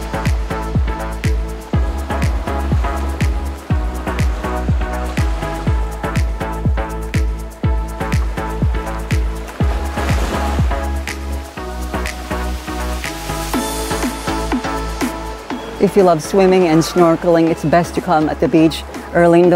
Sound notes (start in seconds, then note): 0.0 sound of waves